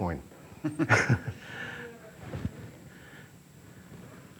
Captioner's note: laughing